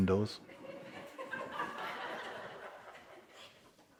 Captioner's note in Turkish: Kahkaha